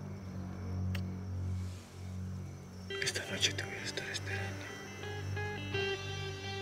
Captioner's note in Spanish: susurra